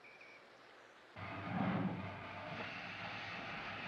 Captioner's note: recording of train departing